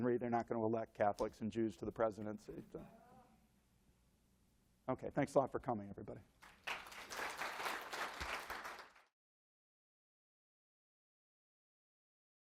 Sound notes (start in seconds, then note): 6.4 applause